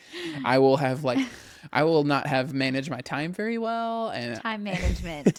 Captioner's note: laughs